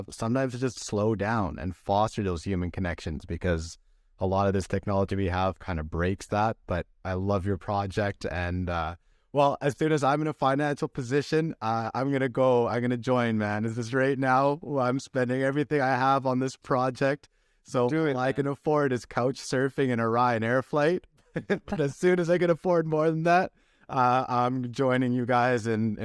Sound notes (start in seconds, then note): 21.3 laughter